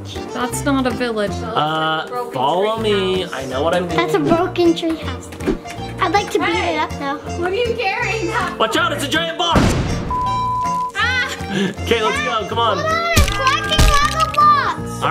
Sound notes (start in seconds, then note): 9.6 exploding effect; 9.9 TV cut off tone